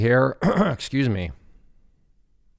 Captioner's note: clears throat